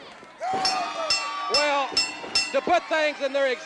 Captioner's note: bell dinging